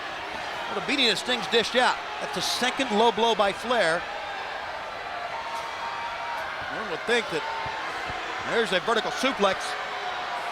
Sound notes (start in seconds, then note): 4.9 crowd cheering